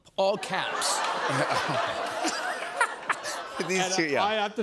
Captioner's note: laughter